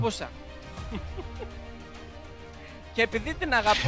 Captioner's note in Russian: Смеется